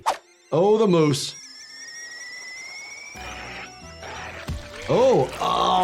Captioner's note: kettle screeches